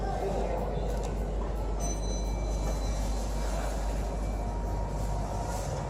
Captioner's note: chime